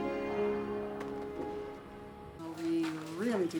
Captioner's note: hand pats